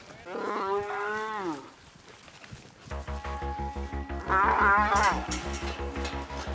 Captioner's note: mooing; clanging sound